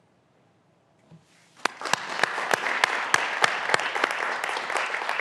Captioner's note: graduands applauding